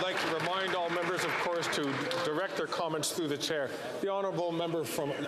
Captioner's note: some Applause